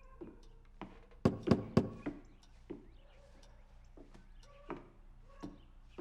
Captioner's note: knuckles knocking; dogs barking